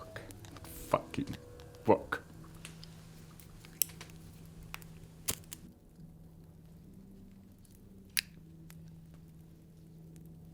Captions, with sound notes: - That damn that book, fucking book. (lighter clicking) (tense music)